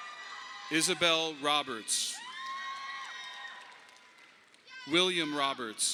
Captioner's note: audience applauding